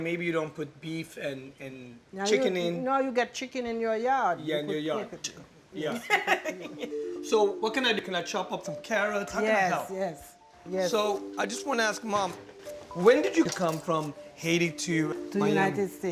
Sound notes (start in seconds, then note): 5.8 laughs